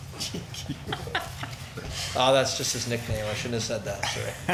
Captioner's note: laughs